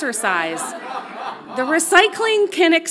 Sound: audience laughs loudly

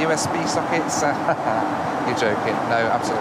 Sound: laughing

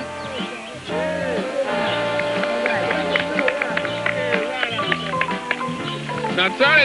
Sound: applause

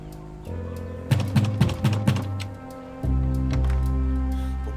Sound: door banging

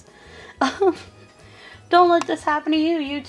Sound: laughing

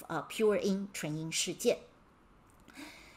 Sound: speaking in Mandarin

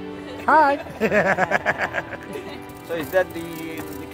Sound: laughs

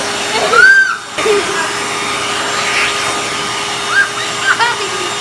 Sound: girls screaming and giggling

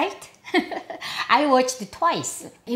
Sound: laughing

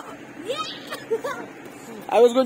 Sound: screams in joy; screams in pain

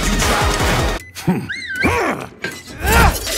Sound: Tatsuya whistles

